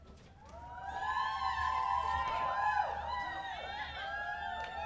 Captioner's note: crowd cheering